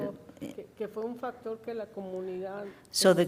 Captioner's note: woman speaks in foreign language